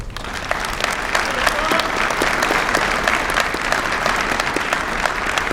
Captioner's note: applause